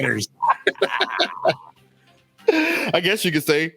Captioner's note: laughs